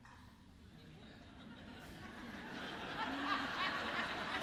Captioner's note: audience laughs